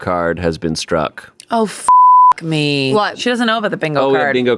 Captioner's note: beep